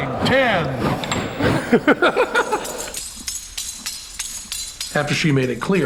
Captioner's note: laughing